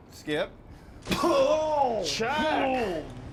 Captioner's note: Chuck coughs